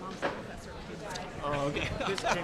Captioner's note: laughs